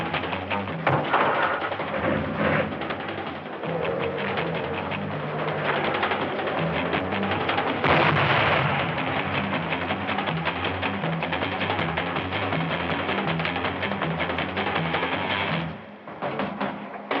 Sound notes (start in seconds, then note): 1.0 engine starting; 7.7 explosion booming